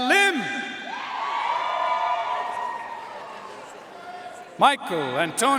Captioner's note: audience cheering and applauding